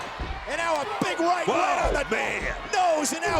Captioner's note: overlapping chatter